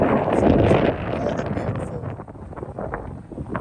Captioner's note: wind noise